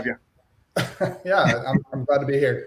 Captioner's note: laughs